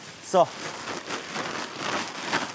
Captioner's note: Rascheln